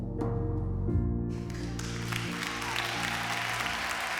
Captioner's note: cheering and applause